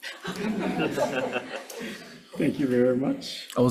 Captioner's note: all laughing